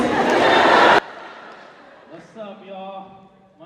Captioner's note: applause